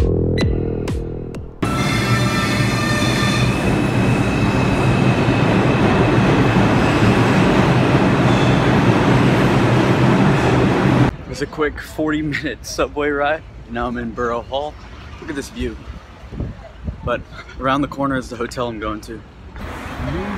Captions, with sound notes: (subway roar) - It was a quick 40 minute subway ride. Now I'm in Borough Hall, look at this view. But around the corner is the hotel I'm going to.